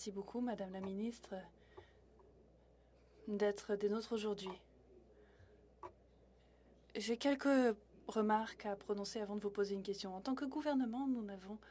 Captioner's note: speaking French